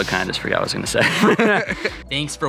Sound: both laughing

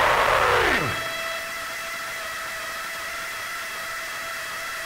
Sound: high pitched feedback

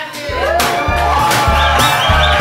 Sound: cheering

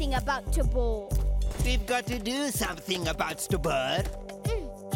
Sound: mockingly

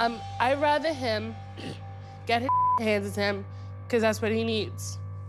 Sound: beep

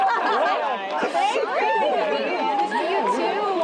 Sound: all chattering

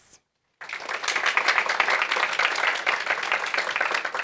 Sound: audience clapping

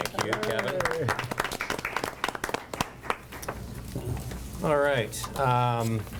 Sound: board members applaud

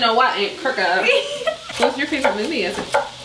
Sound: laughs

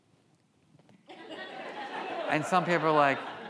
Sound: audience laughs

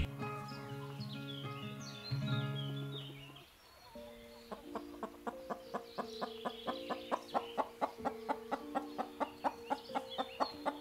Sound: Betsy clucking

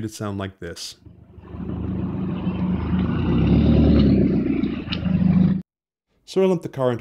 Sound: loud, rumbly noises

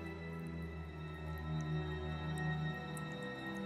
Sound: water dripping

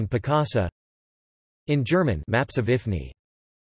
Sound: in Spanish; in German

